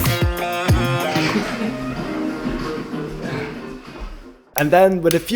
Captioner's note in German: Lacht